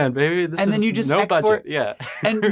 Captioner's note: laughs